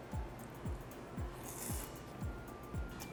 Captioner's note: slurping